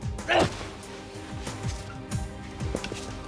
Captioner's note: Lex grunts